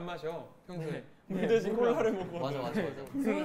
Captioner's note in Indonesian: Haha